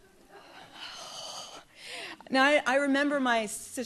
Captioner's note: sighs